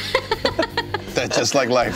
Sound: laughing

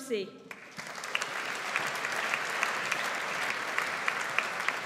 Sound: audience applauds

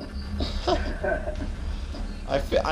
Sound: giggles

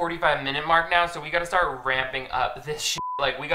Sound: beeps

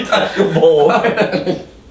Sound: laughs

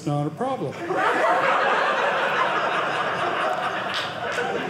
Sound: audience laughing

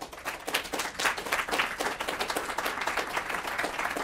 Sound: audience applauds

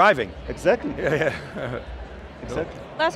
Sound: chuckles

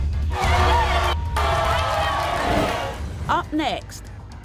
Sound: suspenseful music; cheering

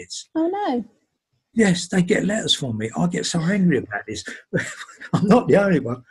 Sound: laughs

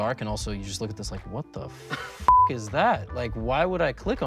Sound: beep

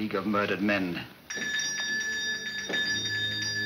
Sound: bell rings

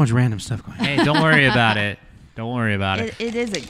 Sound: laughs

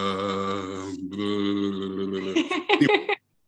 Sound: burbles; laughs

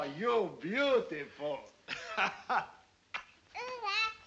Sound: kisses; laughter

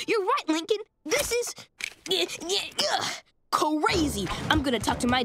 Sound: grunting

